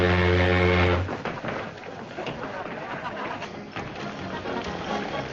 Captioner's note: people chattering